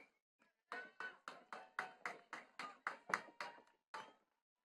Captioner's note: attendees clapping